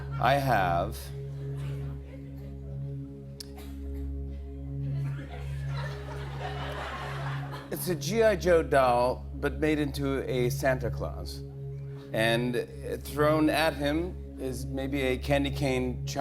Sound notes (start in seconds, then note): 5.0 laughter